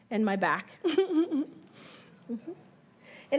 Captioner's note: chuckles